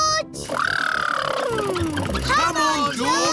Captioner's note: makes sputtering noises